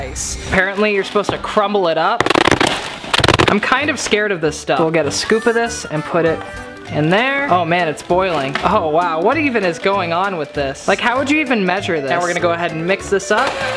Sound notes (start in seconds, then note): 2.2 high speed banging